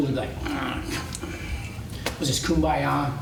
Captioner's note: groans